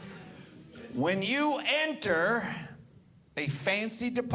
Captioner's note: audience laughing